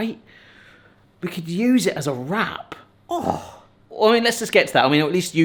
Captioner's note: groans